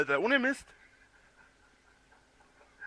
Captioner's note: laughs